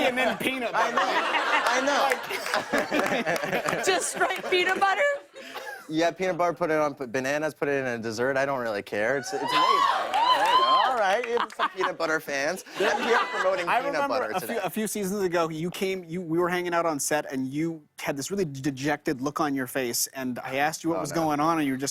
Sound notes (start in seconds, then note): 0.1 laughter; 9.2 audience cheers